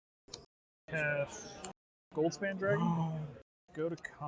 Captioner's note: audible excitement